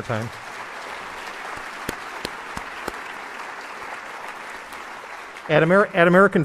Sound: applause

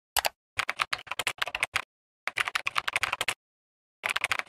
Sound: typewriter click-clacking

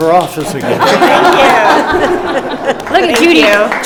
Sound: group laughs

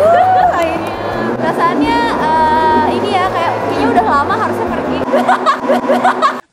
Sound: laughs

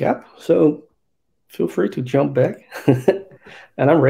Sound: laughs

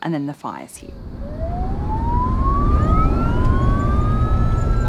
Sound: sirens

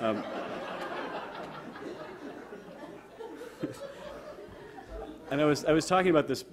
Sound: audience laughter

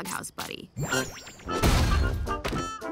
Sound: crashing

